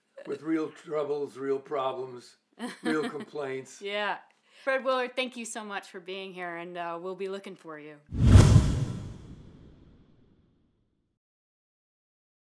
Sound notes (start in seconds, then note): 8.1 logo whooshing